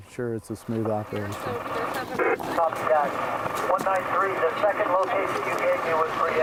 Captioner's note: engine roaring